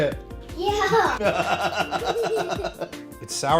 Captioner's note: laughs